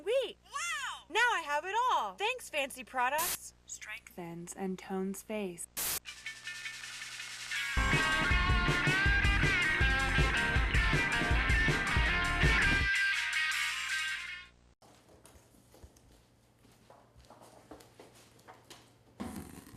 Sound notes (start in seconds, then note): 3.2 static; 5.5 upbeat rockabilly music; 5.7 static; 14.8 rustling